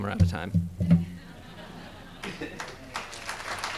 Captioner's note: audience laughing; audience clapping